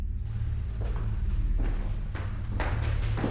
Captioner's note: footsteps approaching